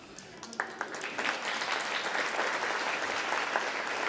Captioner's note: applause